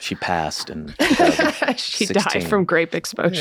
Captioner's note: Rob and Charlie laugh